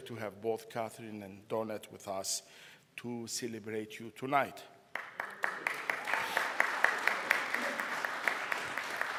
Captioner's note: round of applause